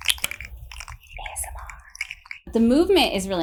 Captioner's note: whispering